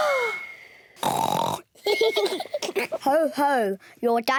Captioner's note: lady pigs gasp; continues to snore; both giggle